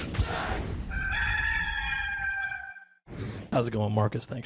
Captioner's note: rooster crowing